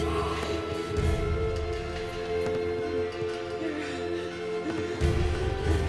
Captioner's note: ghostly whispering